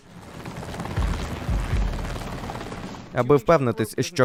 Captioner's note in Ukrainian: гурчання лопатей вертольота